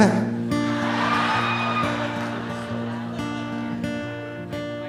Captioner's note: audience cheering